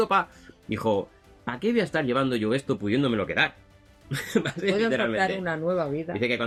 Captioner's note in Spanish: risas